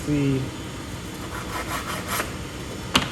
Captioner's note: file scrapes on glass